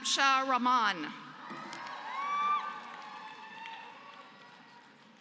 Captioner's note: applause